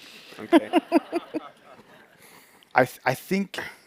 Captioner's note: laughter